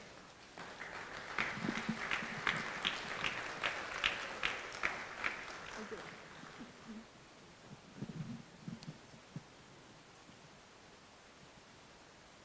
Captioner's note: applause